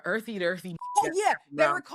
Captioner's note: beep